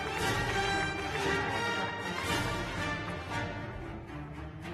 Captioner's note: cheers and applause